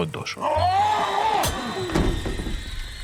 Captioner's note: groans of pain